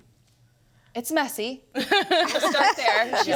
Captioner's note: panelists laughing